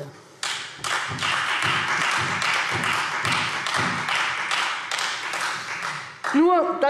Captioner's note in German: Beifall Freie Demokraten